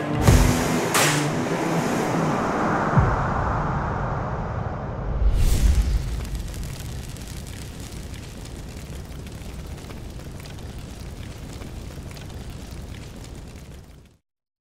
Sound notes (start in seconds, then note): 5.4 fire Crackling